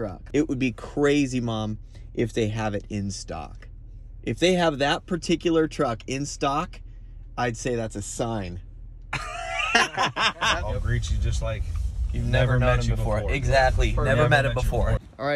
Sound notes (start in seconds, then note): 9.1 laughs